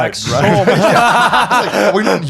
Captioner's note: laughing